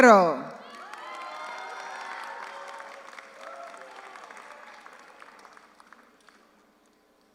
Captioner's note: audience cheers; audience applauds